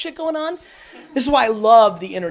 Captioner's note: audience laughs